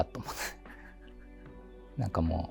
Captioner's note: laughing